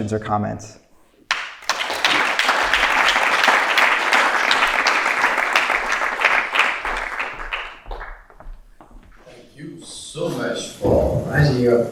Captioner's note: applause